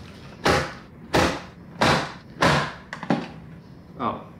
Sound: slicer banging

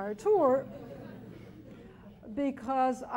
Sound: chuckling

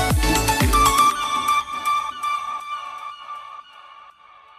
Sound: seagull noises

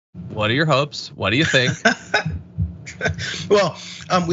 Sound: laugh

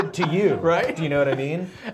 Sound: laughs

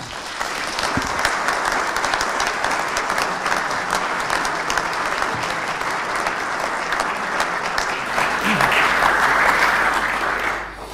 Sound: applause

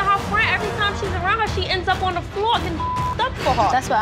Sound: beep

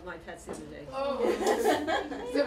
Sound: laughter

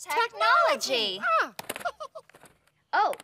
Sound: chuckles

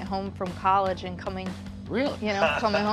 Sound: chuckles

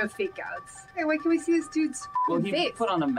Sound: beep

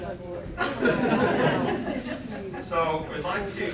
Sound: laughter

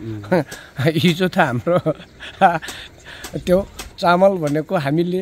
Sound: laughing

